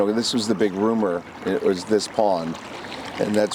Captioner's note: water splashing